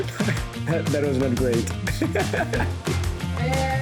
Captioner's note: laughter